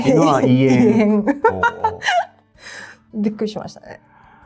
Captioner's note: laughs